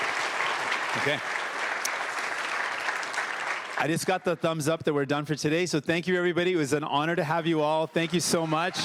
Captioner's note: cheering/Applause